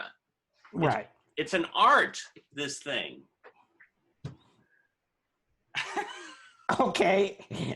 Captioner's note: laughter